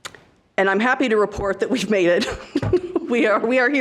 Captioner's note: laughing